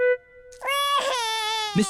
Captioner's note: wails